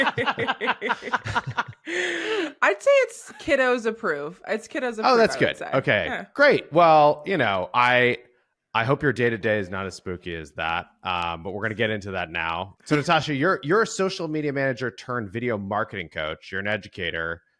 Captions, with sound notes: - [LAUGHS] I'd say it's kiddos approved. It's kiddos approved, I would say. - Oh that's good. OK. - Yeah. - Great. Well, I hope your day to day is not as spooky as that, but we're going to get into that now. So Natasha, you're a social media manager turned video marketing coach. You're an educator.